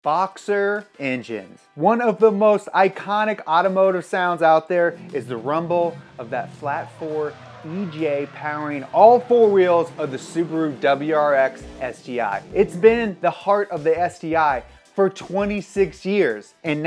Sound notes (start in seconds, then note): 5.0 car engine rumbling